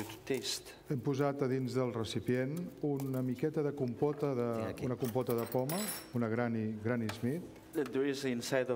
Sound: speaking catalan

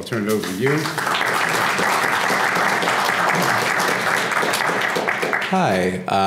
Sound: applause

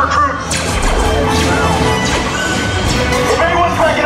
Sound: laser blaster noises'

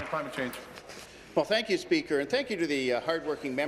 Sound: applause

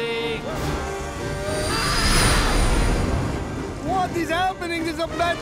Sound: engines revving

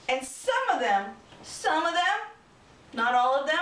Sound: none

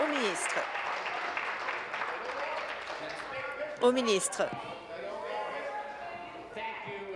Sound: applause

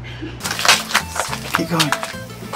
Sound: steps on rocks

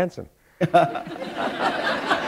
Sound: laughter

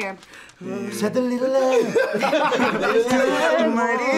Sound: everyone laughs

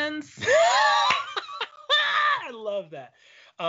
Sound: laughing

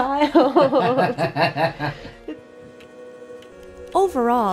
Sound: laughing

